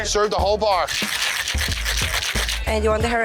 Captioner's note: ice shakes